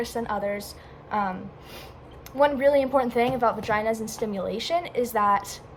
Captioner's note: sniff